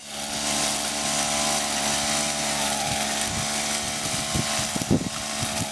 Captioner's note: noise: trimmer cutting the grass